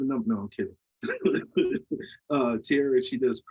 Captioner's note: laughs